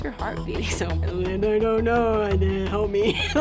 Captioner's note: laughs